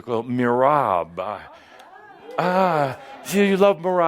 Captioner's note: audience approves